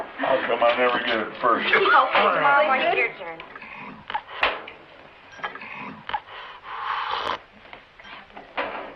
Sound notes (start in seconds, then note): 1.8 overlapping chattering; 5.3 slurping